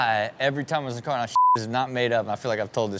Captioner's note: beep